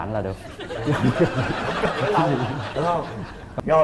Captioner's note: laughing